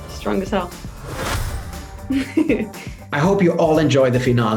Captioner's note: chuckles